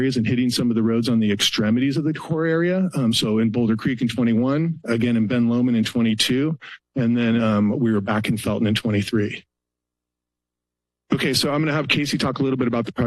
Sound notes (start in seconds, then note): 9.6 pause